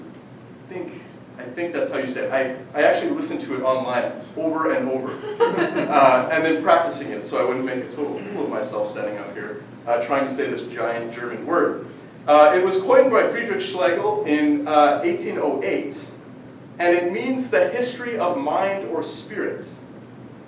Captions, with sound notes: I think that's how you say it, I actually listened to it online over and over. (audience laughing) And then practicing it so I wouldn't make a total fool of myself standing up here, trying to say this giant German word. It was coined by Friedrich Schlegel in 1808, and it means "the history of mind or spirit".